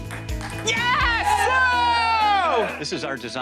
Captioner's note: cheering